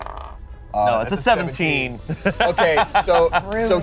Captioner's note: laughs